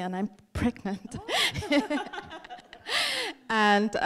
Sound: both laughing

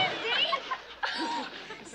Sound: chuckles

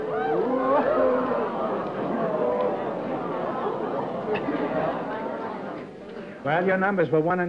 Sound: audience aws

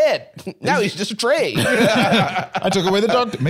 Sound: laughs

